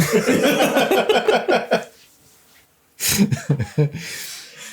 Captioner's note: gasps